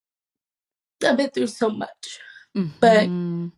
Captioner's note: choking up